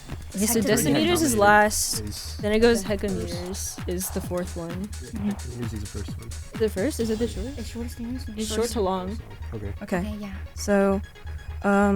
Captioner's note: wispering